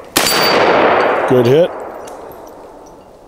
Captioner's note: gunshot